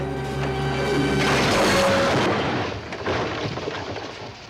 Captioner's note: totally lame crash sound effects